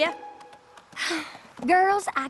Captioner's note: sighs